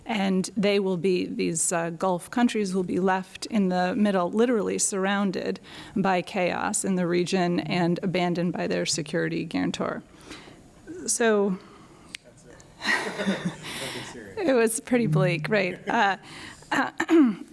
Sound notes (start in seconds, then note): 12.9 laughs